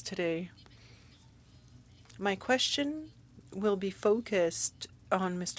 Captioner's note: speaking French